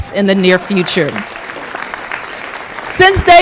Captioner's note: applause